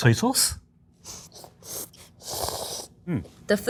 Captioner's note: chefs slurping